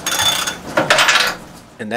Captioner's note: banging sound